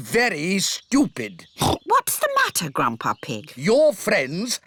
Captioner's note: oinks